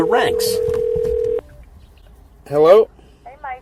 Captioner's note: phone rings